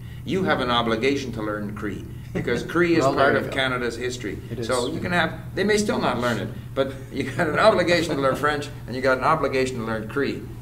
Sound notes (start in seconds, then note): 2.3 laughs